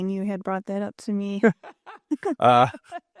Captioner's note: laughing